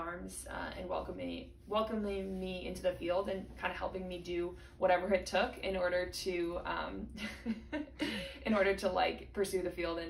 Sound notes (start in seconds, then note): 7.2 chuckles